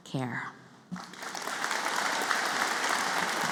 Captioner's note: applause